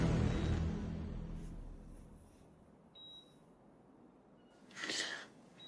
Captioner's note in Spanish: Sonido de telemetría